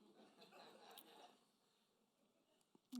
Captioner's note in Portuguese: risos da plateia